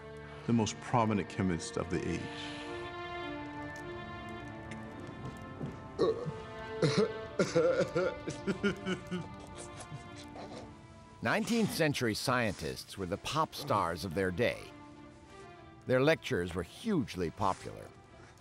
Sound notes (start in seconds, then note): 5.9 groans; 7.3 laughing